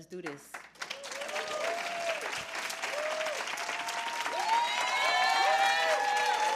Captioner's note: applause